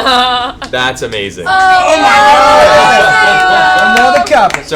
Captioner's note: cheering